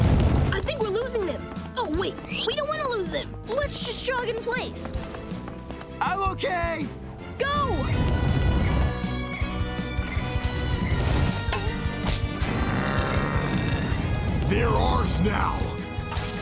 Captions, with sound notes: I think we're losing 'em. Oh, wait. We don't want to lose 'em. Let's just jog in place. I'm okay! Go! [growling] They're ours now.